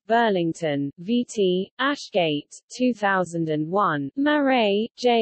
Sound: in Italian

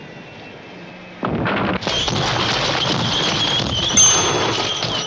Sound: loud crashing; bell dings

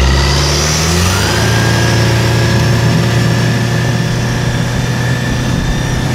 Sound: motor humming; motor revving

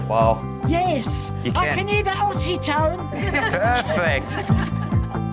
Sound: laughs

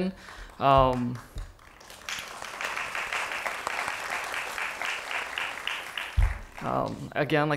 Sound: applause

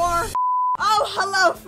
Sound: beep

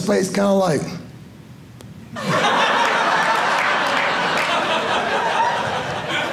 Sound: audience laughing

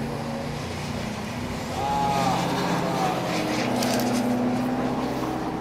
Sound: screams in pain

